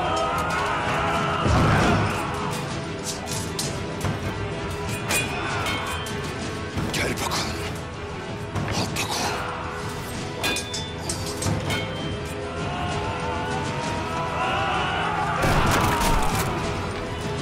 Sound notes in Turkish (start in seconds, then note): 0.0 Bağırma sesleri; 3.2 Çarpışma sesleri; 9.9 Çarpışma sesleri; 12.2 Bağırma sesleri